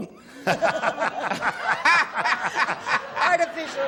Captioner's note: laughter